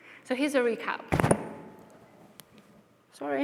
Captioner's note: microphone clangs